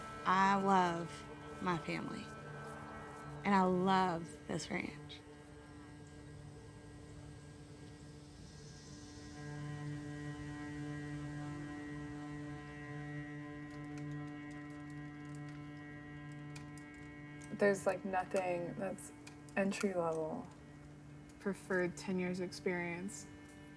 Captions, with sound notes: I love my family and I love this ranch. (gentle music continues) (keyboard clacking) - There's like nothing that's entry level. Preferred 10 years experience.